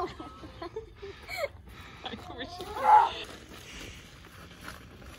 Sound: laughter

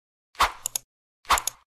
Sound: whoosh and click

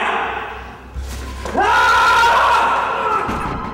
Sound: yelling; crying out

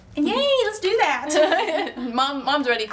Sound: both laughing

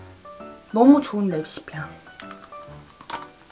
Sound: crushing

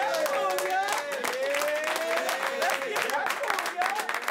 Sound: applause

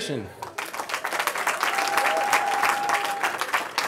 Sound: applause

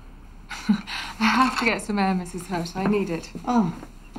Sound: chuckles

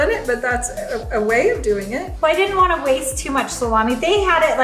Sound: none

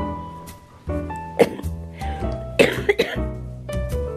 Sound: coughing

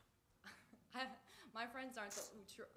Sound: laughs

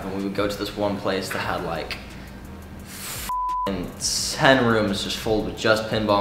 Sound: beep

